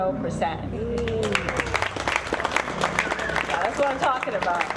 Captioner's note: audience clapping